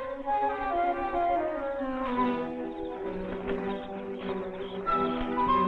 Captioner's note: bushes rustling